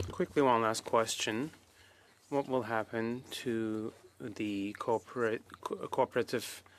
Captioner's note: speaking French